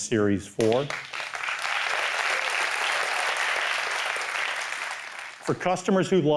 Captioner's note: applause